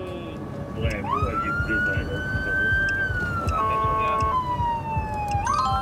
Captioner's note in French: sirènes